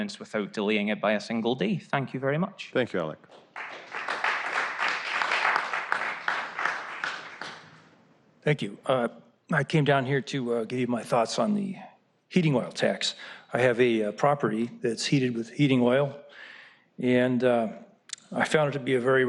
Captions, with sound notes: >> THANK YOU ALEC. [APPLAUSE] . >> THANK YOU. I CAME DOWN HERE TO GIVE MY THOUGHTS ON THE HEATING OIL TAX. I HAVE A PROPERTY HEATED WITH HEATING OIL AND I THOUGHT IT WOULD BE A VERY RELIABLE SOURCE OF HEAT AND EASILY MAINTAINED AND COST